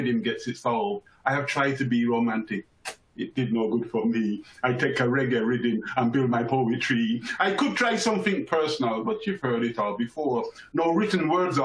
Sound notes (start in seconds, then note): 2.8 kisses